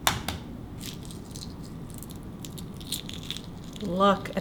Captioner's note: shell crackling